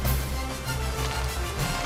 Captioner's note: water splashing; cloak ruffle